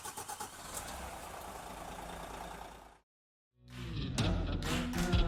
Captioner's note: car engine starting; upbeat music